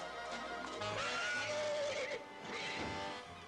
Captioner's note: horse neighs